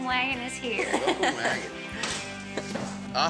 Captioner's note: laughter